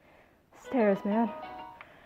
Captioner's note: heavy breathing